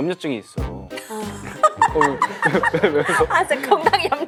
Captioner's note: cracks up